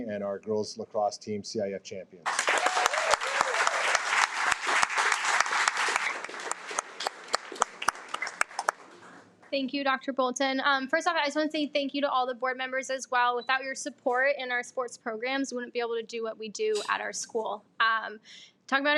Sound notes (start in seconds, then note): 2.2 audience applauding